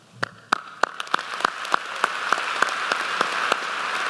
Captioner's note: applause